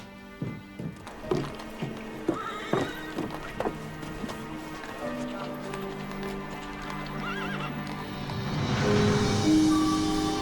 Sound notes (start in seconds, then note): 0.9 horses neigh at a distance; 8.3 birds chirping; 8.3 calm music playing